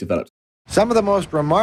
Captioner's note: soundbite of archived recording